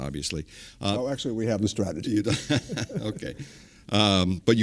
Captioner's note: laughter